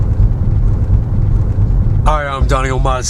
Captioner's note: cars passing